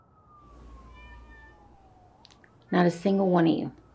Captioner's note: cats meowing